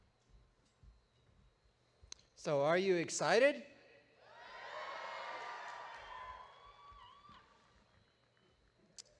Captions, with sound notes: - Thank you. So are you excited? (audience cheering)